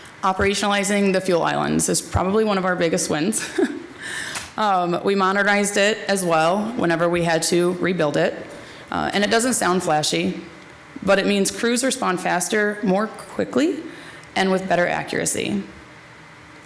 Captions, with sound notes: Operationalizing the fuel islands is probably one of our biggest wins. (chuckles) We modernized it as well whenever we had to rebuild it. And it doesn't sound flashy, but it means crews respond faster, more quickly, and with better accuracy.